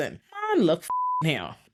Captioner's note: beep